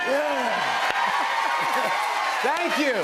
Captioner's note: cheers and applause